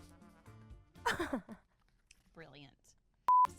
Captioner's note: laughs